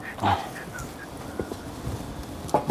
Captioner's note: low whistle